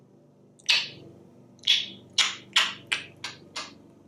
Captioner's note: kisses